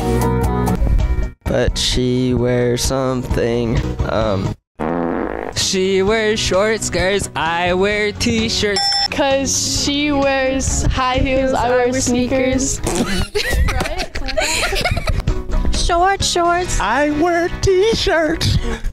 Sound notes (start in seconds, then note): 0.0 music under; 4.8 flatulence sound effect; 5.5 music under; 8.8 correct answer ding sound effect; 12.8 laughing; 15.2 music under